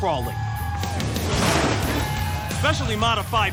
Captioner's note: crowd cheering